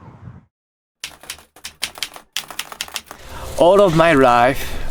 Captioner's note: keyboard keys clicking